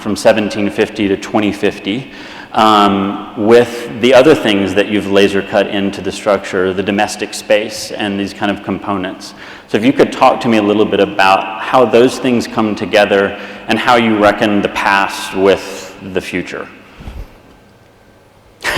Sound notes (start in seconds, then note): 17.5 laughs